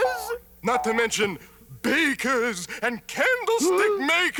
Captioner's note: gasps